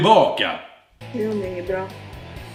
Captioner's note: mumbles